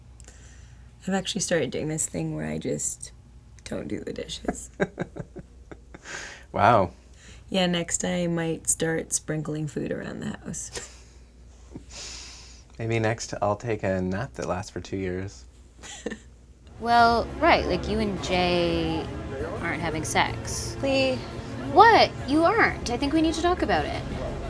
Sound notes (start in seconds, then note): 15.8 chuckles